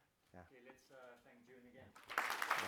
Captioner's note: applause